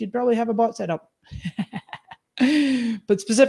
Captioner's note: laughs